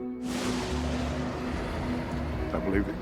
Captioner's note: thunder crashes